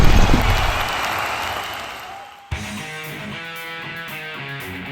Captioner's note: cheering